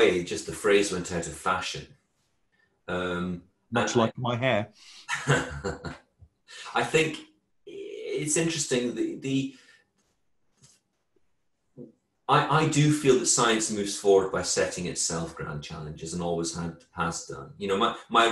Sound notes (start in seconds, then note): 5.1 laughs